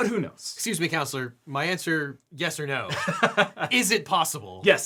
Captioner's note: laughing